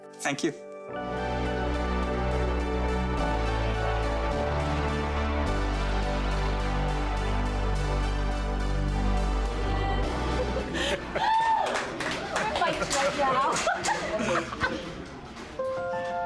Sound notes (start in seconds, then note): 11.0 cheers and applause; 13.7 laughing